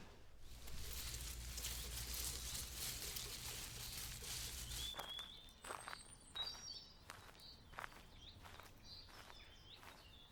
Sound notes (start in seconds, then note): 0.3 leaves rustling; 3.0 birds chirping; 5.2 birds continue chirping; 5.2 footsteps rustling